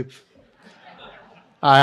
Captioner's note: laughter